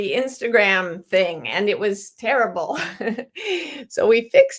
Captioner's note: chuckles